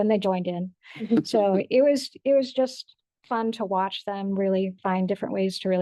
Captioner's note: board member laughs